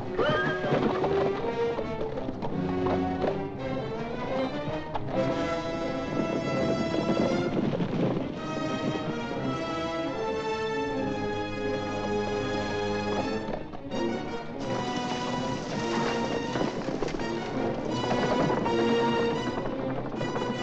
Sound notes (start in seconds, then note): 0.0 horse whinnies; 1.7 suspenseful music; 6.1 hooves pounding; 6.1 suspenseful music; 14.5 hooves pounding; 14.5 suspenseful music